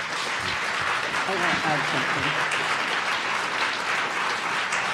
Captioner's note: audience applauding